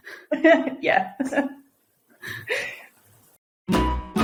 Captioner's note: chuckles